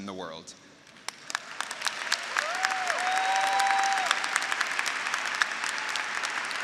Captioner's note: graduates applauding; graduates cheering